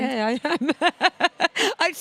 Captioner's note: laughs